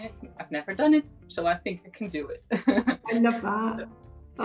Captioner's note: chuckles